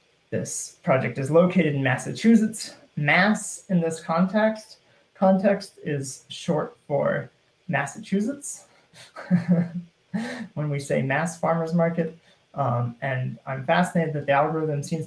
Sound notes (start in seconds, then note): 9.0 laughing